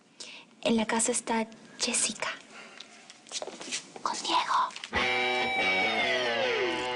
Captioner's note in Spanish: Susurra